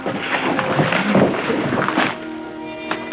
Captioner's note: footsteps; paper rustling; paper crinkling